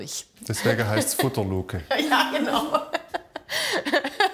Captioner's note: laughs